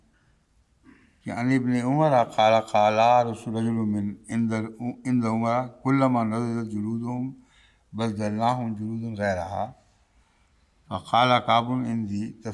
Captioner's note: Arabic